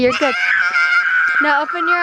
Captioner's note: screaming